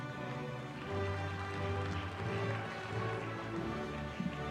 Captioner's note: applause